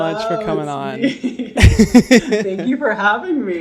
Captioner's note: laughing